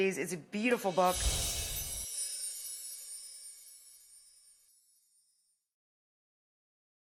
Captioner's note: air whooshes; wind chime music